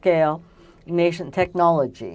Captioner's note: speaking french